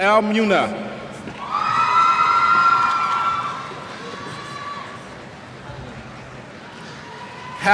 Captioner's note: cheers